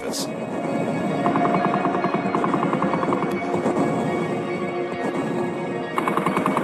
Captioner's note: guns blasting; heavy artillery booming